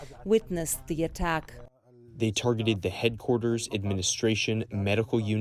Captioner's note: through translator